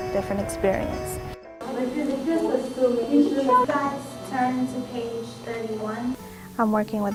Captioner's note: students talking